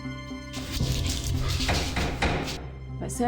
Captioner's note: knocking on door